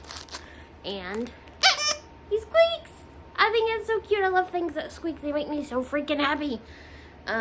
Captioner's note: toy squeaks